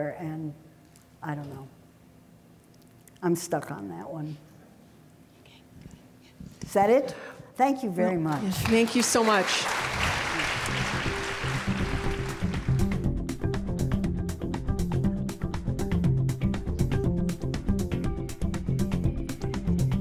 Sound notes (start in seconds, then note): 8.2 audience clapping; 10.7 upbeat techno music